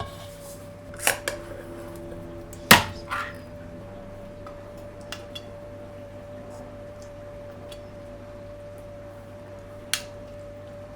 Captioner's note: chopping sounds